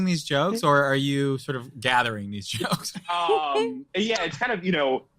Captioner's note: group laughing